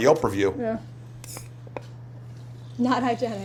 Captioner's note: can hisses